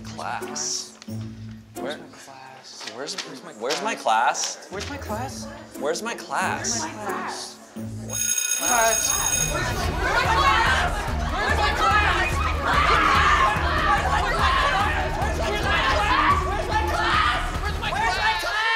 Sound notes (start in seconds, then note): 5.5 chatter; 8.0 bell rings; 9.4 everyone screaming and panicking